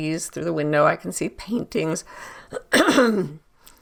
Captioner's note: clears throat